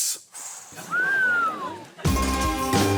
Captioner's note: gasps, whistles; instrumental music playing